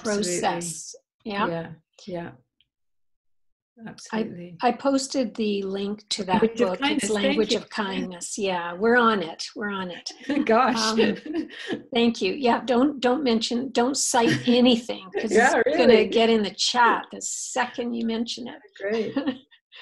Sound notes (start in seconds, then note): 9.9 laughs